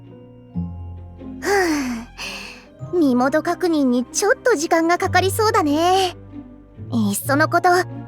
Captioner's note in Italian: sospira